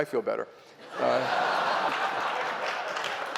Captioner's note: laughter; applause